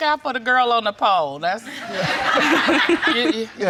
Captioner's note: all laughing